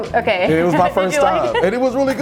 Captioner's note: laughing